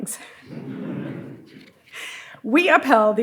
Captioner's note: audience laughing